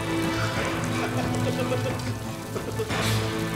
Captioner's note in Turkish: Gülme sesi